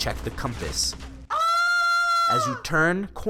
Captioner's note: scream